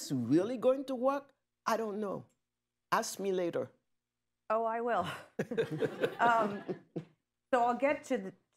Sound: laughter

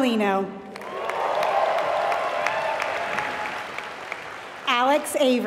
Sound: applause

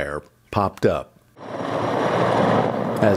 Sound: sound of helicopter

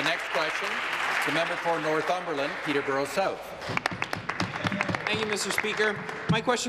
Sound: applause

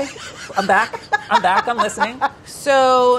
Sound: laughs

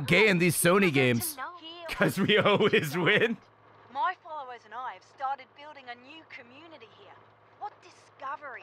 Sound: laughs

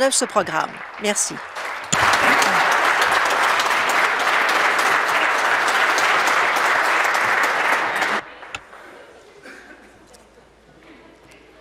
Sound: applause

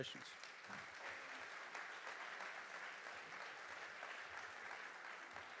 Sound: audience applauding

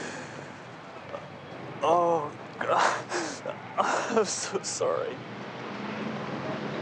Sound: sobbing

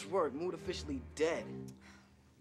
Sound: sighing

